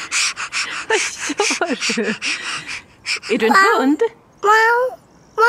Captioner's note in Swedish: flämtar